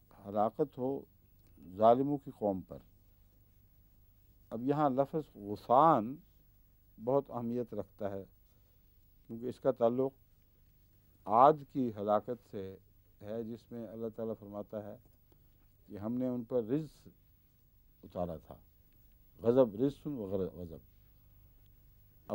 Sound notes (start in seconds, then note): 5.7 Arabic; 20.4 Arabic